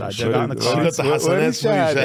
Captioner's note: speaking in foreign language